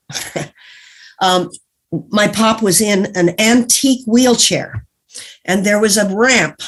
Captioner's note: chuckles